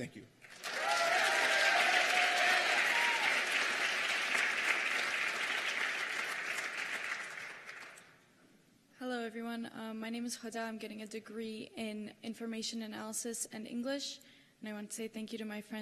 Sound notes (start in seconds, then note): 5.0 cheers and applause